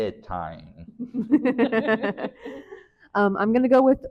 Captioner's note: laughing